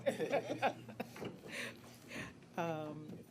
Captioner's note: laughter